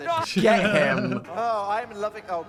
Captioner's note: chuckling